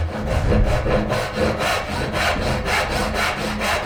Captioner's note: sawing wood